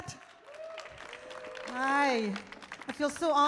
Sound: audience claps

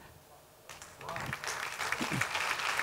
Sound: applause

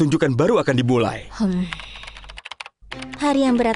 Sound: Choco sighs

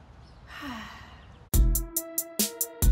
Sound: sighs; upbeat music

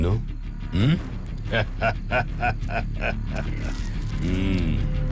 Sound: laugh

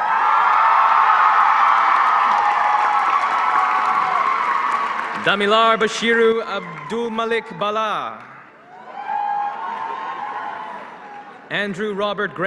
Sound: applause

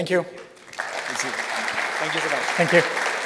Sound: applause

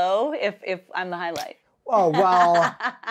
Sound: laughing joyously

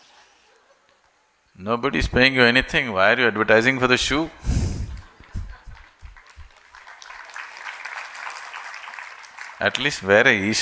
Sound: applause

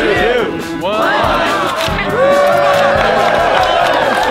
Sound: applause

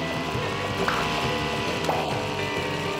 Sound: ploop

